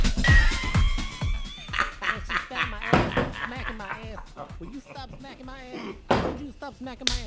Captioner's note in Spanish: Risa, el sonido de slapstick TV, hasta la rodilla bofetadas